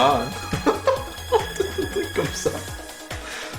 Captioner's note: laughs